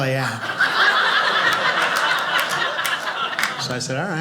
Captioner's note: audience laughing